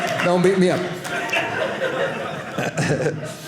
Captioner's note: audience laughing